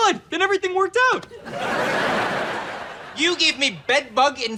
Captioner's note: laughs